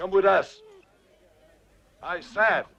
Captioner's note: Beast whines